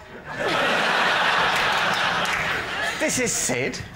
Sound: laughter

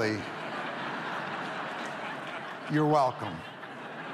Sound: audience laughs

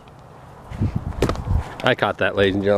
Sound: none

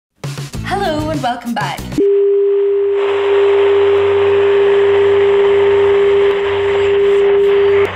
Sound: computer in distress tone

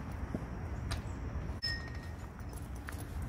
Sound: gate clangs shut

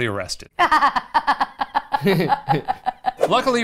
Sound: laughing

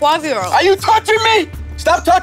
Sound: shouting

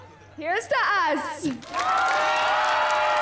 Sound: cheering

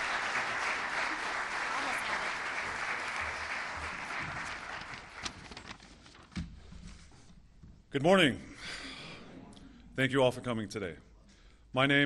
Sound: applause

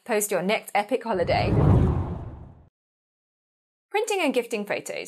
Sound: hard whooshing

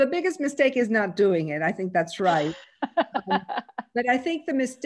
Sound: laughter

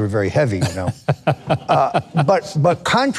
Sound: laughing

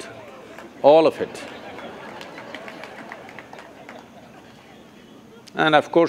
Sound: laughter/Applause

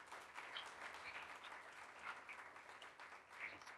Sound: applauding

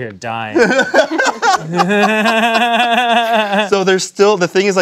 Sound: laughing

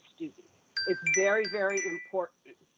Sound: chime

